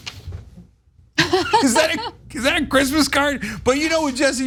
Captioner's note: laugh